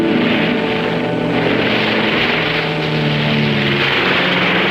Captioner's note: pensive orchestral music; airplane engine roaring